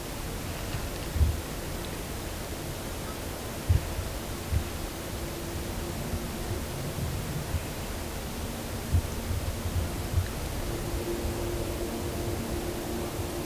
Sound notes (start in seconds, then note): 0.7 wind